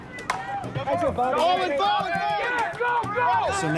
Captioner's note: shouting